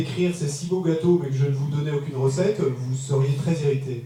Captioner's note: French